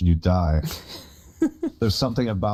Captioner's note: snickers